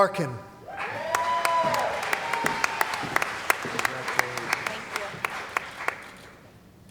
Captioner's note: cheering & Applause